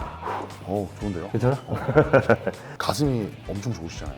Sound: laughter

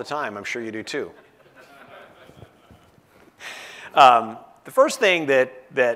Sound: laugh

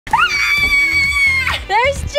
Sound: screams

